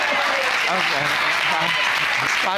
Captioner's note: audience applauding